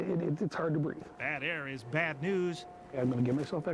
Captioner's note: voiceover